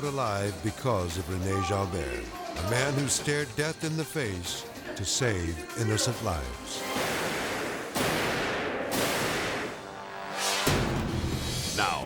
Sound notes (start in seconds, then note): 6.8 gun bangs; 10.1 dramatic music